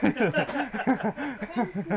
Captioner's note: both Laugh